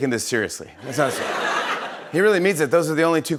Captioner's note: laughter